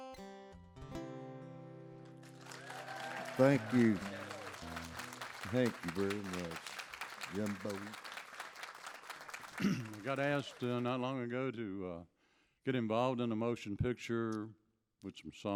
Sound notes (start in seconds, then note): 2.5 audience applauds; 9.5 clears throat